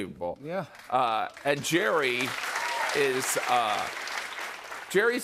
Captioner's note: applause